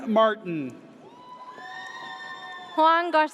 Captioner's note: audience cheers